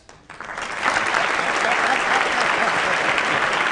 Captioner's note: applause